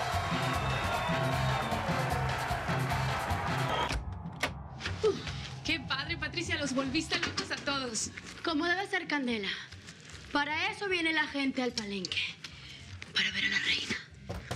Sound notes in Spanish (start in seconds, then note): 3.2 ruido al entrar